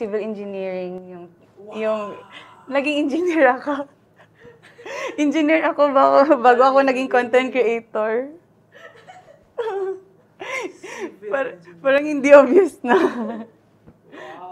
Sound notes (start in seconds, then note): 4.9 laughs; 13.7 laughs